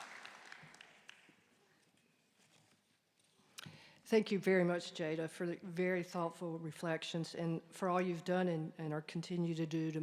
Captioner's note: applause